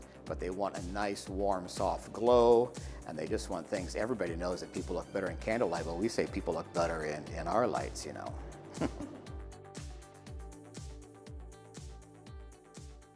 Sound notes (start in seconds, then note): 8.7 chuckles; 9.4 upbeat music